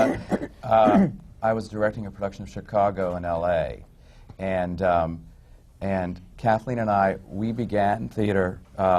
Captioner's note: she laughs